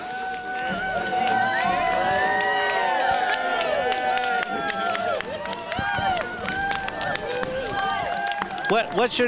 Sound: cheering

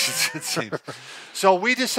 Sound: laughing

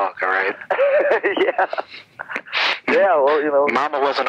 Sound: laughing

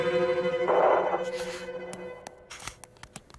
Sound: banging

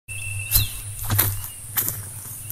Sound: footsteps

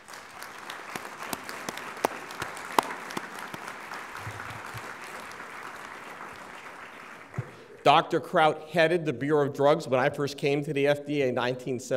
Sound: applause

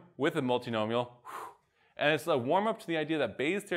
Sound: exhales

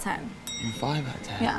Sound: bell dings

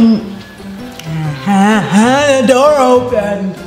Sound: comical sounds

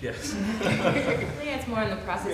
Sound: laughter

